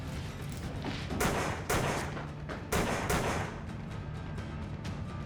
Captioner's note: gunshots banging